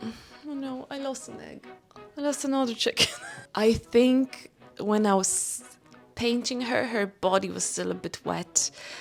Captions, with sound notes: Oh no. I lost an egg. I lost another chicken *laughs* I think when I was painting her, her body was still a bit wet.